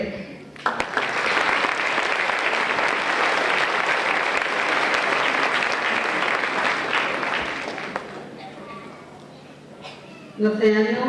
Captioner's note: applause